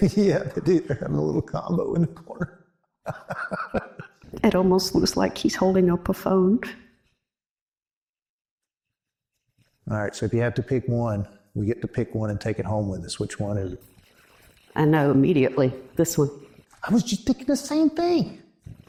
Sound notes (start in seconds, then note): 3.0 laughs